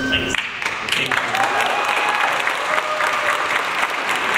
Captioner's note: audience applauds